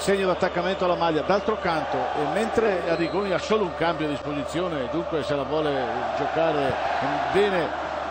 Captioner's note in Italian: Applauso